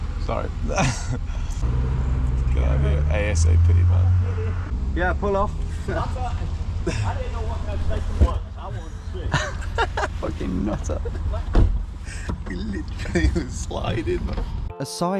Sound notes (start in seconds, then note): 0.7 laughing; 9.5 laughing